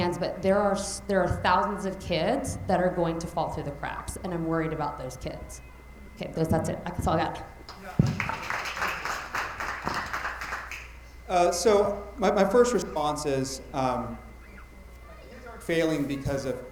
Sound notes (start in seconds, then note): 8.0 attendees applauding